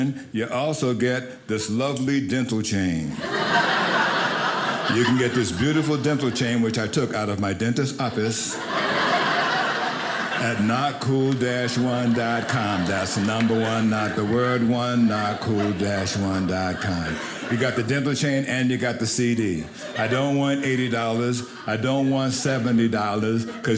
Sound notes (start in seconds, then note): 3.1 audience laughing; 8.5 audience laughing